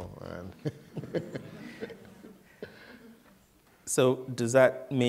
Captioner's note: laughter